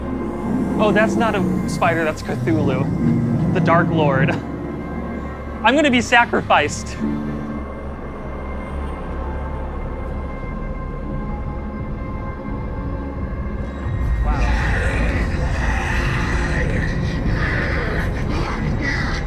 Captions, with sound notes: Oh, that's not a spider. That's Cthulhu. The dark lord. I'm gonna be sacrificed! Wow. (canned growling)